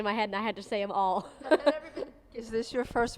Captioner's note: laughing